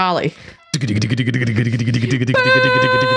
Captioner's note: imitating fast drumming